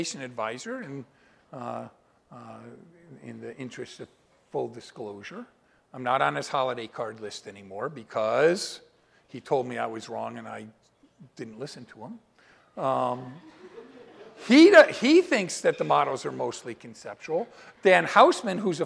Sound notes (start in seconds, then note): 13.1 laughter